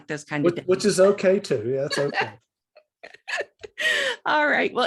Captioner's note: laughs